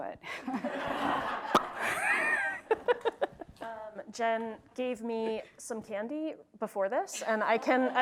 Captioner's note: laugh